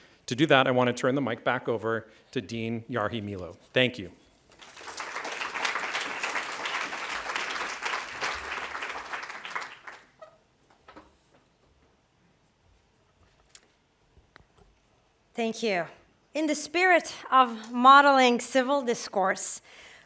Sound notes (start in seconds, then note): 4.5 applause